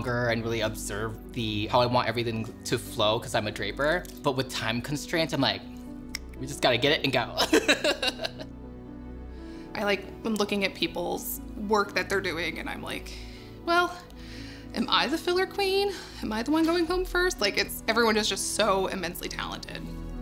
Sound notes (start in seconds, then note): 6.0 fingers snap; 7.5 laughing